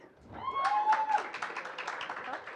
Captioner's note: applause